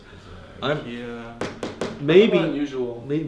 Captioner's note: finger tapping